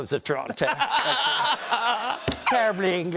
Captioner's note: laughter